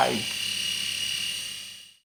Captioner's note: razor buzzing